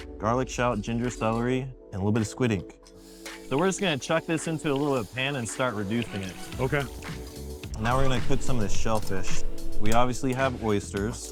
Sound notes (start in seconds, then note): 4.2 pan sizzling